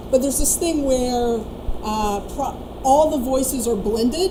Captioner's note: none